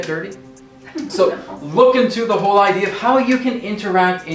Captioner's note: laughter